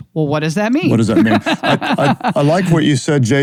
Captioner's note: laughs